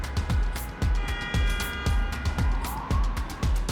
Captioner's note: upbeat music; car horn honking; upbeat music